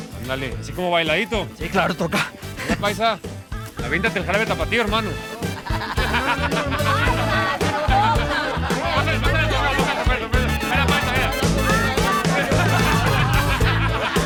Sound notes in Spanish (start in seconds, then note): 5.3 Exclamaciones